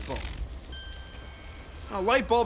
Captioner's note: ding